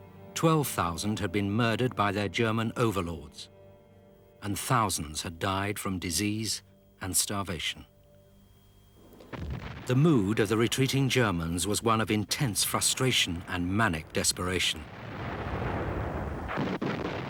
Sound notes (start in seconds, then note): 9.2 explosions booming